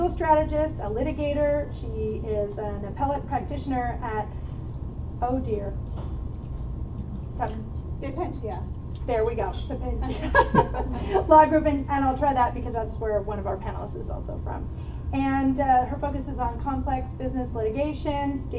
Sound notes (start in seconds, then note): 9.1 chuckle